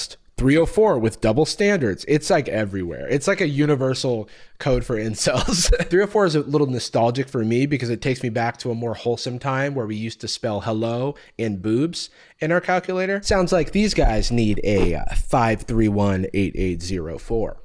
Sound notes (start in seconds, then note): 5.4 laughs